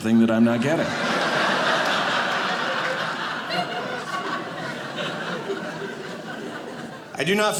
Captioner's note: audience laughing